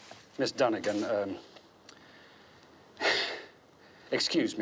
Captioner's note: sighs